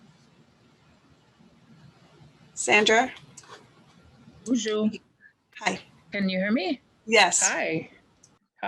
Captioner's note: speaking in Native Language